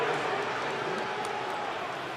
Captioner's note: announcer on pa; crowd booing